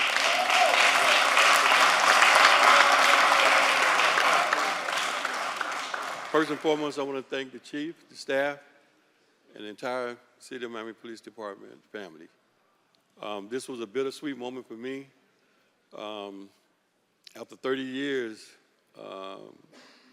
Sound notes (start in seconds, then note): 7.4 applause